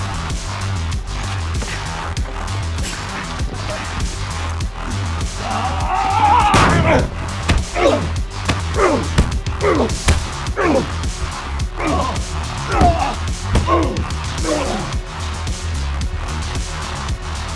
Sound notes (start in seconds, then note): 4.8 both moaning; 8.3 upbeat music; 11.7 both moaning; 14.6 upbeat music